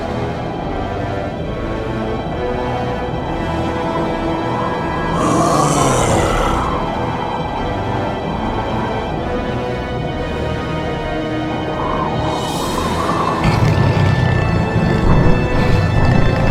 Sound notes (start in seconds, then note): 5.0 beast grunts